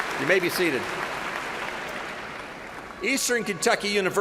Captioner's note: applause